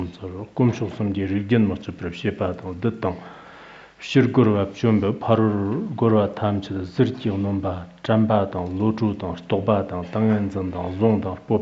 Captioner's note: giving oral transmission in Tibetan